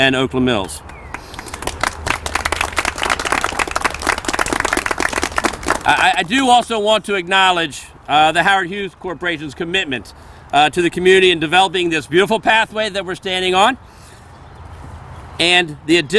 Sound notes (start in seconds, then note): 0.9 applause